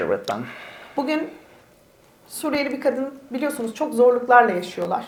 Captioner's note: speaks in Turkish